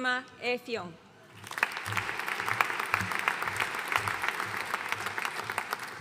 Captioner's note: audience applauding